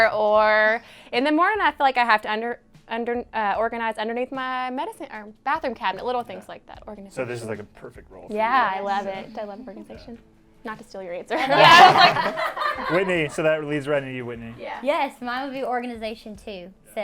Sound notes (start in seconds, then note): 11.4 all laugh